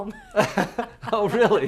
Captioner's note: laughs